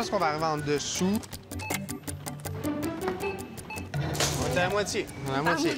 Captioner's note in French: signal sonore